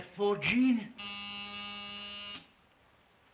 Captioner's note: doorbell buzzes